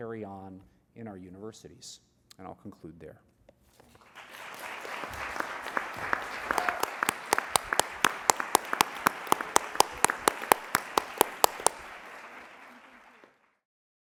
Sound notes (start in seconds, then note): 3.6 applause